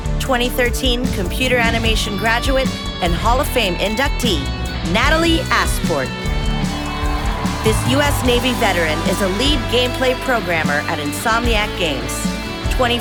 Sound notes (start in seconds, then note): 6.1 audience cheering